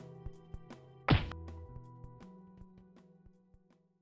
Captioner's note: thumps